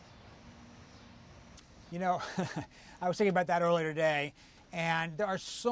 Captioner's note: laughs